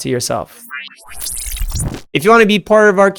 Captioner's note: electric whooshing